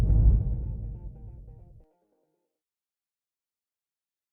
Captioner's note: whooshing